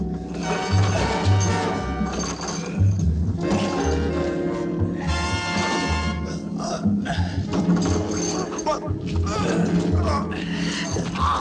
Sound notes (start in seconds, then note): 6.3 gagging